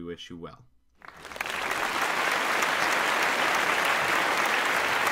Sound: audience claps

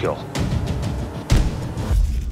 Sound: thud

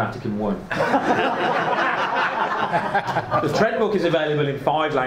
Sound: audience laughs

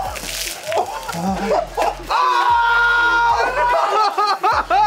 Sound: screaming and laughing

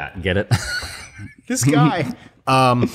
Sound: laughter

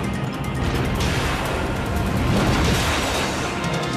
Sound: engine blast sound

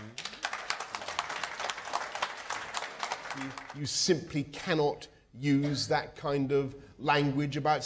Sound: applause

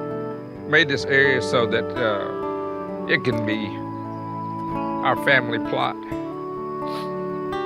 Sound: sniffles

